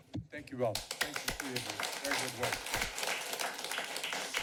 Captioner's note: applause